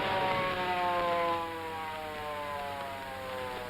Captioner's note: siren wails